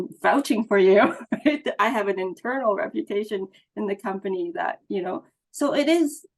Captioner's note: laughs